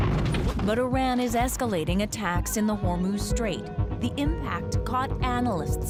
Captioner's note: explosion